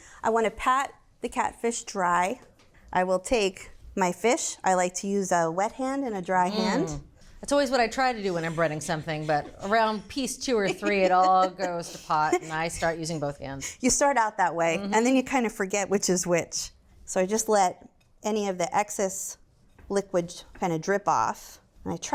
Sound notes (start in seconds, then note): 10.6 laughs